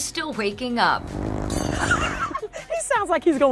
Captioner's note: Dexter snoring; laughs